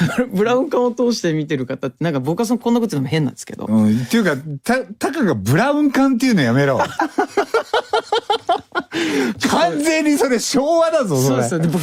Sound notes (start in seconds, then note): 8.4 爆笑; 8.8 break into a laugh